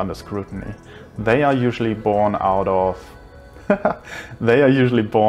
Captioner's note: laughs